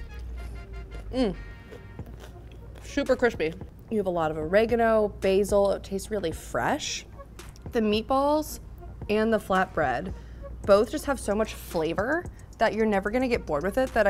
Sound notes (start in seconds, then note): 1.0 hums